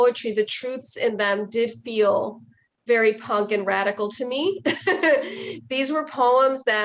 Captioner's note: chuckles